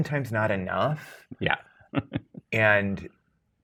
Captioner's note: guy chuckling